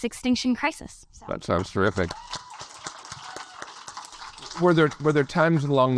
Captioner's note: audience applaud